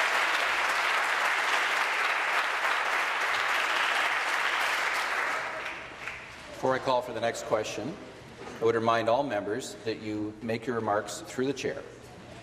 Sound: applause

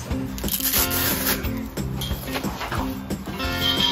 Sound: velcro ripping; metal clanking

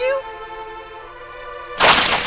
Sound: lightning cracks

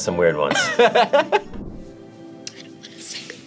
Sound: laughs

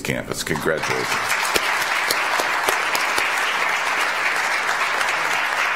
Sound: audience applauds

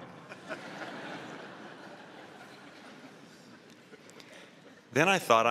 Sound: laughter

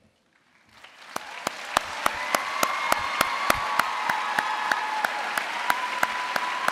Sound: audience cheering and applauding

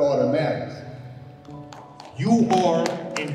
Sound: applauding

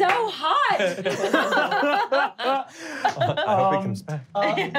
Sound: laughing

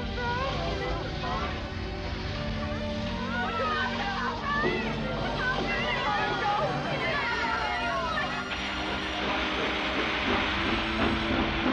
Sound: loud rumbling; loud hissing

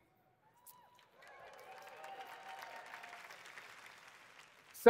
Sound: applause

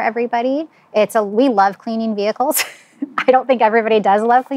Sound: chuckles

